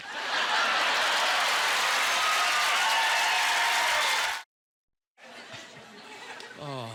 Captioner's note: cheers and applause